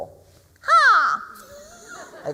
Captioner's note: bird squawk; laughter